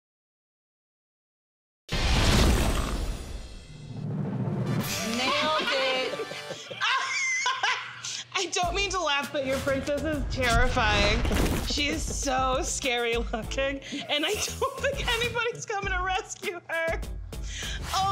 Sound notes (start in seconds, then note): 2.0 intense music; 6.7 laughing